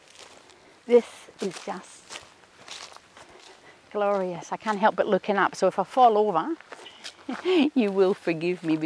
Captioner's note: chuckles